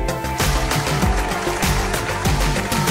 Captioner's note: studio applause